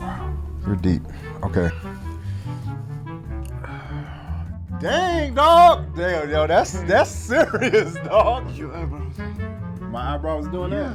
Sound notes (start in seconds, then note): 1.8 playful music; 3.4 sighing; 6.5 laughing